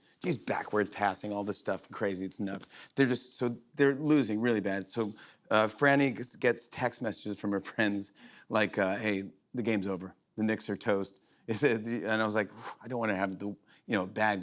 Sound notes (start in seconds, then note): none